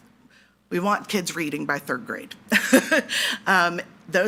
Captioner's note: laughs